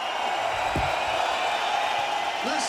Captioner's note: cheering